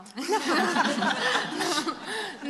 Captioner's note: laughter